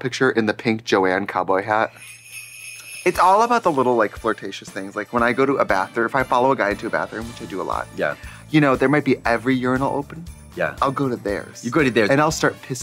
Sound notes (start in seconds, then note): 2.0 sleigh bells jingling